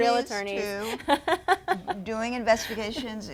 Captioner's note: laughing